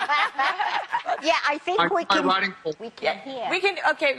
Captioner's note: se ríen